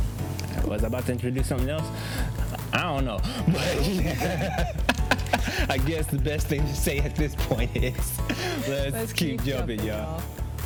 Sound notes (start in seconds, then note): 3.2 both laugh